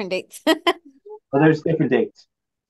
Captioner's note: laughs